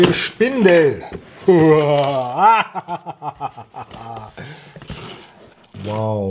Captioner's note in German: Lacht laut